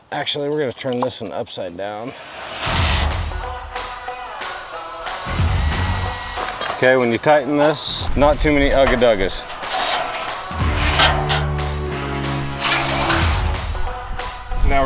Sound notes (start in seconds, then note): 2.8 drilling; 2.8 upbeat music; 9.9 drilling; 9.9 upbeat music; 11.1 metals clanking; 12.9 drilling; 12.9 upbeat music